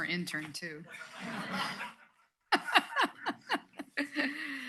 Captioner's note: laughter